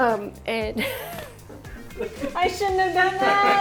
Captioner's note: laughs